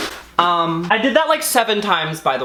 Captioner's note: flowers slamming